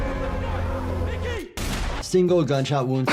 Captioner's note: gun fires